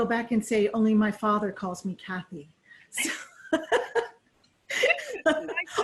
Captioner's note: laughing